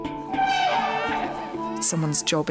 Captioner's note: baby crying